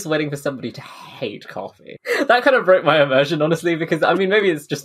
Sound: laughing

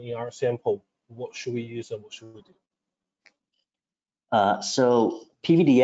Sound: faintly speaking

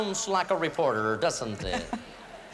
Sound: laughter

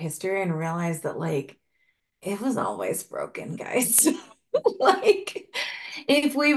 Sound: laugh

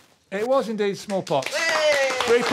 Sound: applause

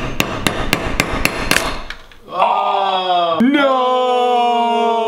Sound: crunching

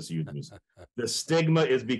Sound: chuckles

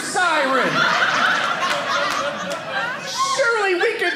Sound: audience laughing

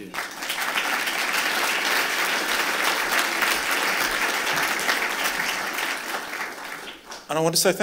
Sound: applause

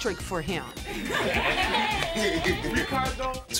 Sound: laughter

